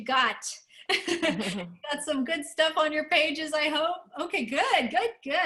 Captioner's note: laughter